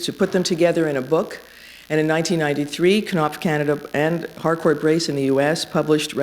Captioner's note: none